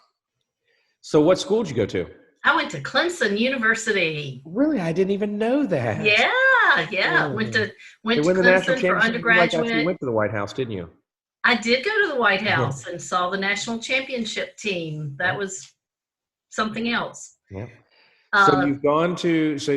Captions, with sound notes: - So, what school did you go to? - I went to Clemson University. - Really I didn't even know that - Yeah. Went to Clemson for undergraduate. - You lived out in Clemson like you live in the White House, didn't you? - I did go to the White House. (laughs) And saw the national championship team. That was, something else. - Yeah.